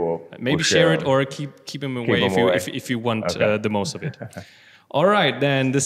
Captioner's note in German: lacht